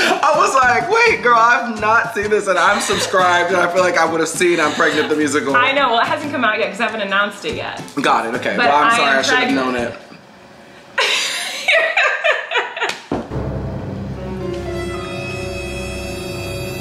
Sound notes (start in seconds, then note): 0.0 laughs; 11.0 Colleen laughs; 13.3 dramatic tense music